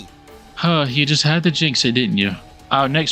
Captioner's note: sighs